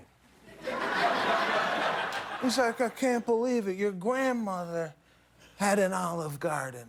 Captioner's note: laughter